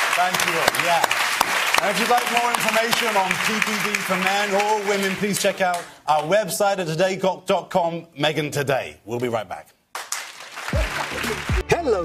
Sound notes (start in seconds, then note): 5.1 applause